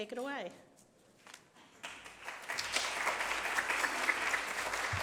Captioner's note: applause